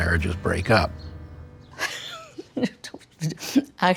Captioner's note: laughs